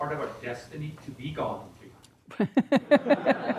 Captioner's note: laughter